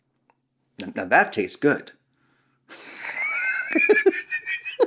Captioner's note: laughs